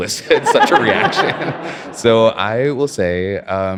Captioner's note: audience laughs